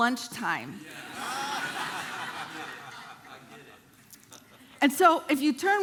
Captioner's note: congregation laughing